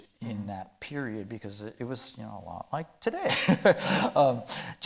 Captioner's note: chuckling